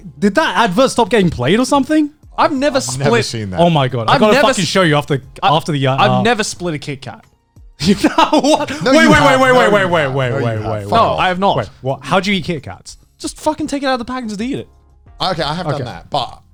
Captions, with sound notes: - Did that advert stop getting played or something? - I've never split- - I've never seen that. - Oh my God, I gotta fucking show you after the- - I've never split a Kit Kat. - You've never, what? (laughs) Wait, wait, wait, wait, wait- - You have- - No, I have not. - How do you eat Kit Kats? - Just fucking take it out of the package and eat it. - Okay, I have done that.